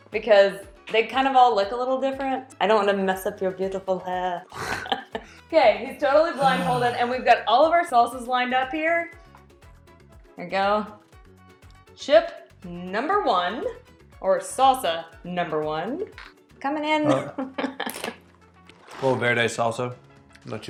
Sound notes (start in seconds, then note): 4.8 snorts; 6.3 sighs; 17.1 chuckles; 18.7 chip crunches